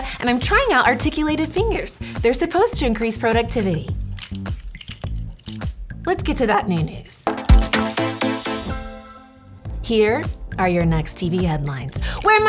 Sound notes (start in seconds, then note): 4.2 clicking; 7.2 upbeat music